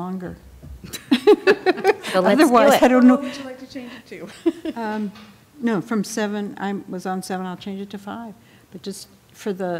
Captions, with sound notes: What else do we know? »: I would be glad to change my vote because I don't want to sit here very much longer. (Laughter) »: So let's do it.